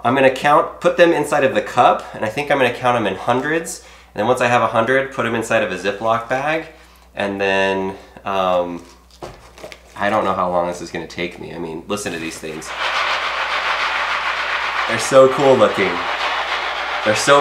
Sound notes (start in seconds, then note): 12.1 rustling